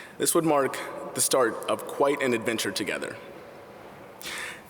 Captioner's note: none